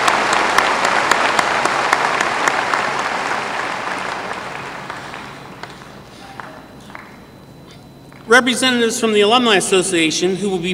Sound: applause

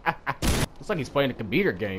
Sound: laughing; explosion

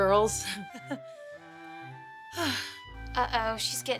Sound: chuckles, sighing

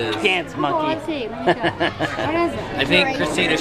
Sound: laughs

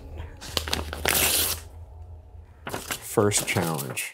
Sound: paper tearing

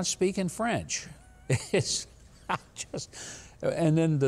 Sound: Mike laughs

